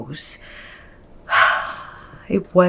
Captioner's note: Naomi sighs